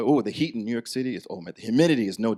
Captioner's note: none